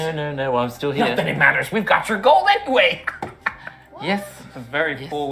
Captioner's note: laughs